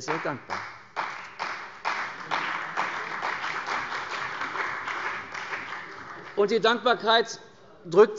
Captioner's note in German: Beifall bei der CDU und dem BÜNDNIS 90/DIE GRÜNEN